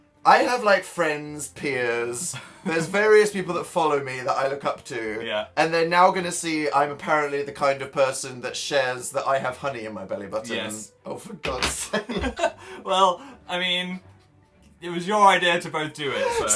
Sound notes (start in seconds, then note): 11.9 laughing; 12.0 Phil giggles